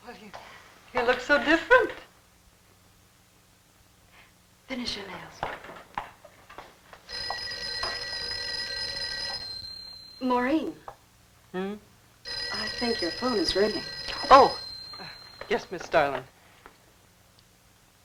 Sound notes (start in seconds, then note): 7.0 telephone ringing